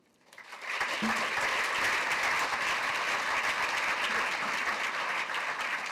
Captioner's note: applause